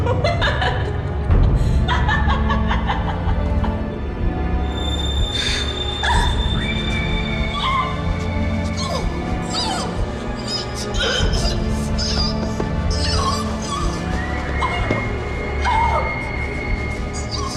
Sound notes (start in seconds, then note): 1.4 Heather laughing; 7.2 Heather screaming muffled; 9.5 Heather grunting